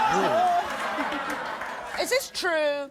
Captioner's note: audience laughs